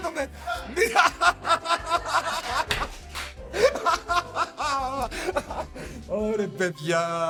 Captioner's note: laughs